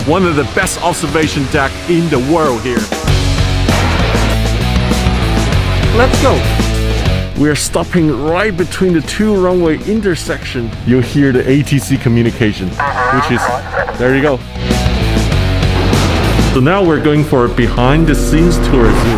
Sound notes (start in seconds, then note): 3.2 exciting rock music; 12.7 radio chattering; 19.0 record scratching